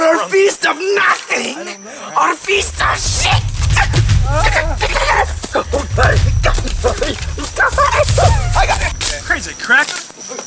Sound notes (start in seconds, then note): 4.0 Georges mumbling and grumbling